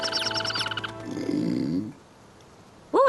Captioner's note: chirping and chittering; growl